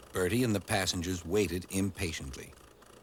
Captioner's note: none